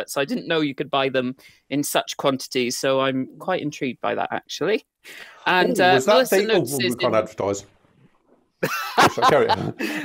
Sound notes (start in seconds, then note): 8.6 laughs